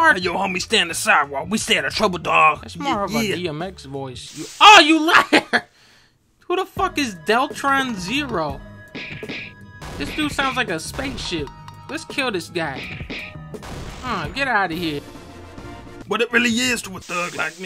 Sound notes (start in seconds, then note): 5.2 laughs